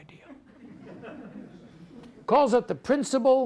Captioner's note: audience laughs